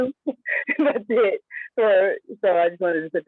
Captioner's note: laughs